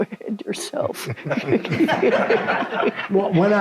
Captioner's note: all laugh